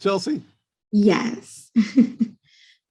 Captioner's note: laughs